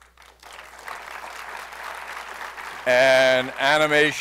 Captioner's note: applause